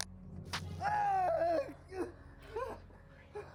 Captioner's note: screams